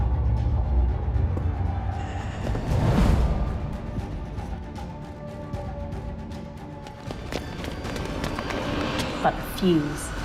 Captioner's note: footsteps